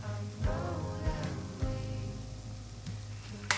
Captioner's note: kitchen ambience